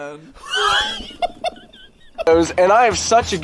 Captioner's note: laughs